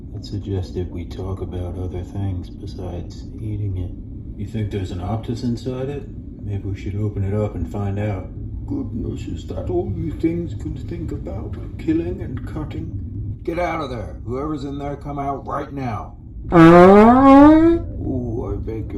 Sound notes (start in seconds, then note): 16.5 fart